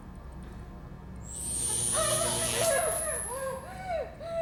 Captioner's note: electricity buzzing; Kira groaning; Kira catching breath